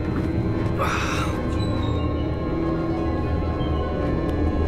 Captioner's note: groans